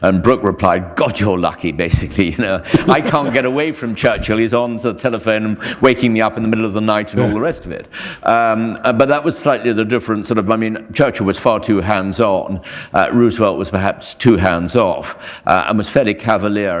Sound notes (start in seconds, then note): 2.6 chuckle